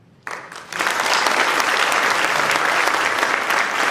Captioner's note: applause